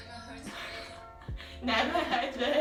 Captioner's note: laughs